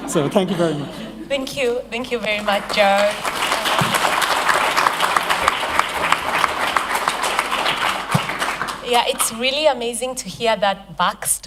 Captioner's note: applause